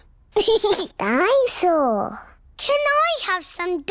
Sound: giggles

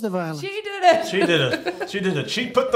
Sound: laughs

